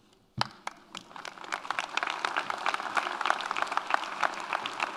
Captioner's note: audience applauds